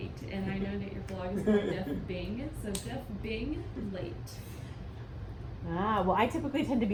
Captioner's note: chuckling